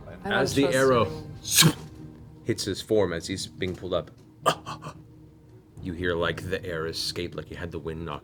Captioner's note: gasps